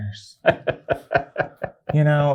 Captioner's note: guy laughs